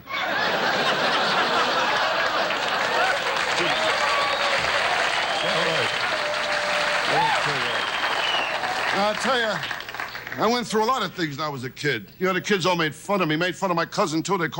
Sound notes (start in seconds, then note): 0.0 audience laughs; 3.8 audience cheers; 6.7 audience cheering drowns out speaker